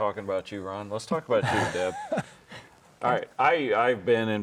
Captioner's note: laughs